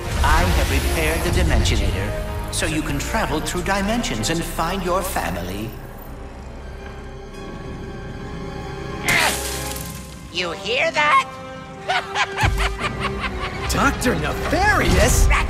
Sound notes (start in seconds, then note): 9.0 pop!!